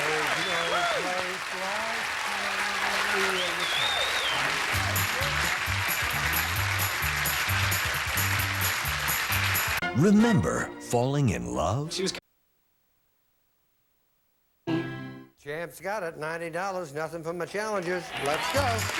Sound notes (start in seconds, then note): 5.3 audience applauding